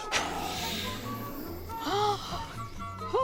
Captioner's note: woman gasps